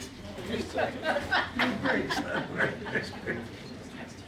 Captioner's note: people laughing